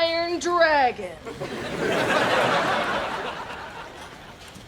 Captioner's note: laughs